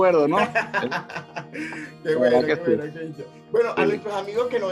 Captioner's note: laugh